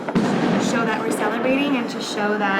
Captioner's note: explosion